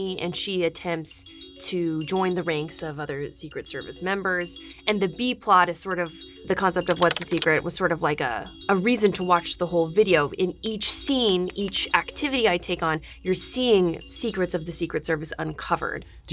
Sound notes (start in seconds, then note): none